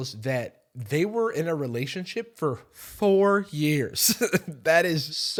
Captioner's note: chuckles